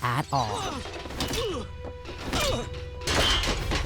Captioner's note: groaning